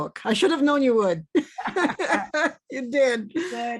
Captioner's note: both laugh